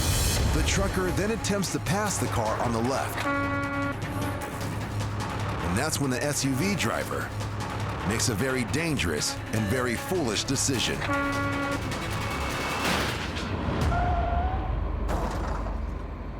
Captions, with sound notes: The trucker then attempts to pass the car on the left, (horn honking) and that's when the SUV driver makes a very dangerous and very foolish decision. (horn honking)